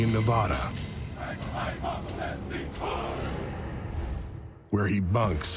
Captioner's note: men chanting